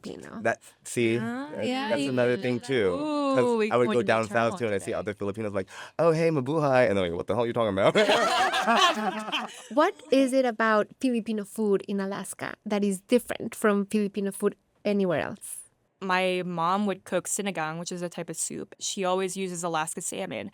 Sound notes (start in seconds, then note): 7.9 laughter